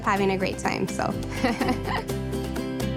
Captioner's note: laughing loudly; bright guitar music